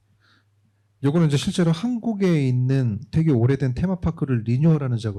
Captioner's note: speaking korean